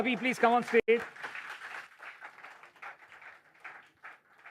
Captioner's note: applause